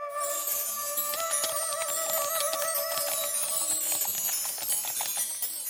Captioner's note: eerie music; keys typing